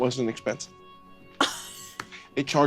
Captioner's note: laughs